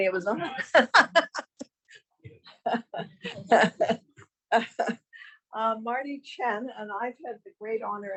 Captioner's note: laughs